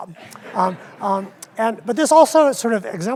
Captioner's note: audience laughs